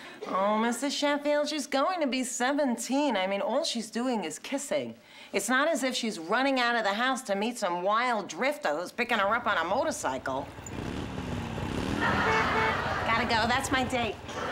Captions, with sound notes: Oh, Mr. Sheffield, she's going to be 17. I mean, all she's doing is kissing. It's not as if she's running out of the house to meet some wild drifter who's picking her up on a motorcycle. (MOTORCYCLE ENGINE REVVING) Got to go. That's my date.